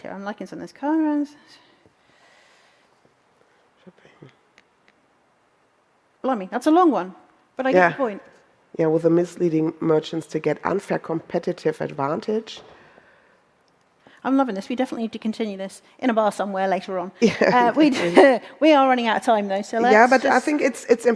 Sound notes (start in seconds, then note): 17.3 laughs